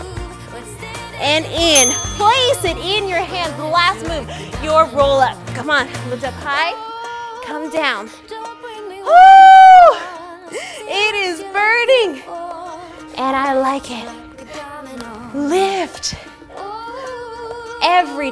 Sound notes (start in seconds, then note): 1.7 timer dings